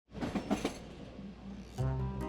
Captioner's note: train clacking; bouncy music